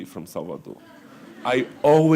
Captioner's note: laughter